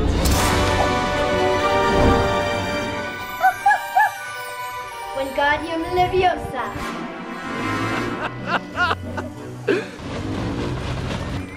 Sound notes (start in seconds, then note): 0.2 dramatic music; 3.4 makes barking noises; 8.2 camera man laughs